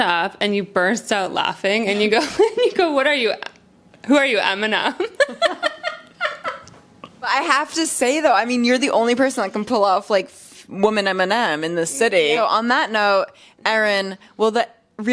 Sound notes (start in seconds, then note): 5.0 laughs